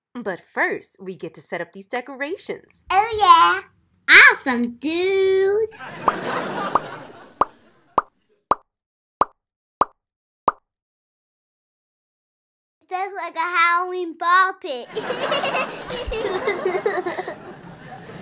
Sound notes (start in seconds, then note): 5.7 laughter; 6.2 popping; 14.8 laughter